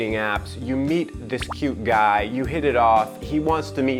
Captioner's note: popping